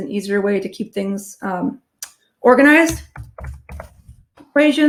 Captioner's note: keyboard clicking